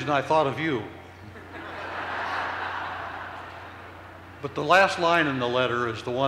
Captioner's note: laughter